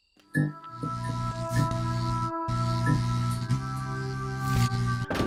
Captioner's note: light buzzing